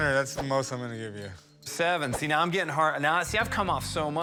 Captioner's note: stammering